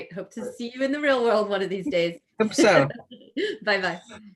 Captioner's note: laughs